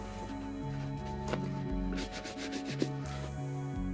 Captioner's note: brushing shoes